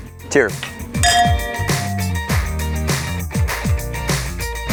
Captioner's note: glasses clink together; upbeat music plays